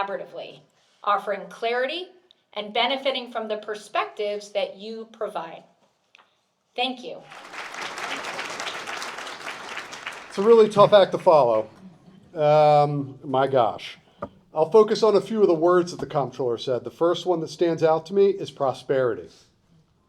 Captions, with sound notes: collaboratively, offering clarity and benefiting from the perspectives that you provide. Thank you. (Audience Applauds) It's a really tough act to follow. My gosh. I'll focus on a few of the words that the Comptroller said. The first one that stands out to me is prosperity.